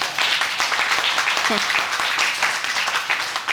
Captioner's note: audience applauding